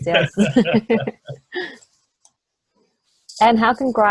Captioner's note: both laughing